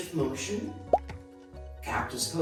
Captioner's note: pop